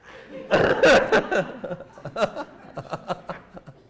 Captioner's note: laughter